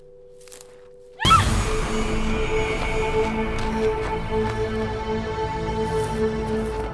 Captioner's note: intense music; Ellie screams